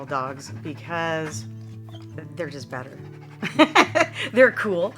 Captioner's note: laughs